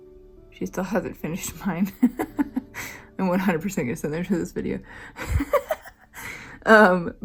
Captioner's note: laugh